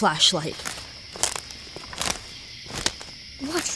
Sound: footsteps crunching ground

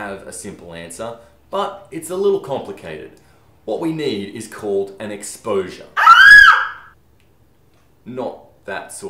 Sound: screem

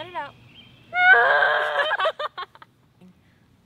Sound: voice crack scream

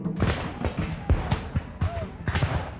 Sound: rifle shots

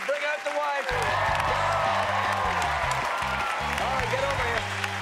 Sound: cheers and applause

